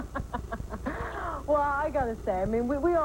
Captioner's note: laughter